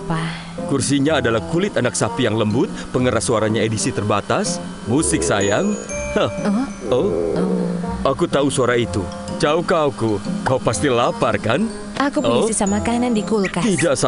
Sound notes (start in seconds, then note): 6.8 Choco sighs; 6.8 Choco's stomach growls